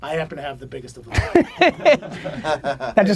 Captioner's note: group laughter